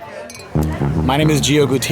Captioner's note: relaxed jazzy music; glasses clink